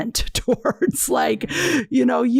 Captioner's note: laughs